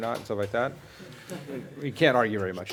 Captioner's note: laughter